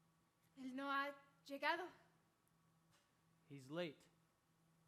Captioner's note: speaking Spanish